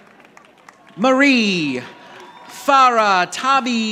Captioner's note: audience applauding